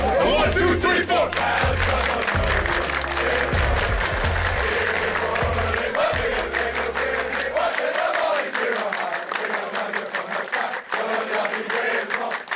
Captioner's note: chanting